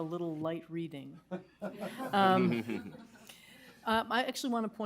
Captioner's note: laughter